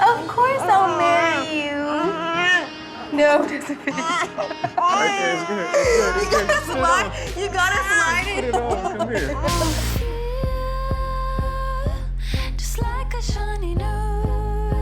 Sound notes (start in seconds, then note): 2.5 triumphant music; 8.8 laughing